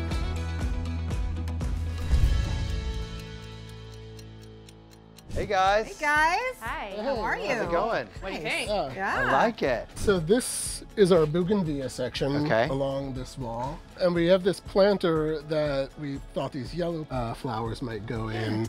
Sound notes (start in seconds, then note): 0.9 upbeat music continues; 2.8 clock ticks